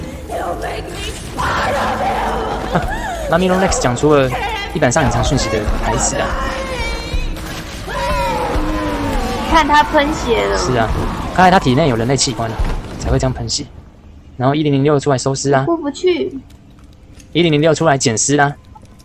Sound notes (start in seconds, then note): 7.8 Mommy Long Legs screams